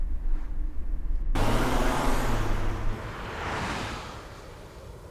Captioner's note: car engine revving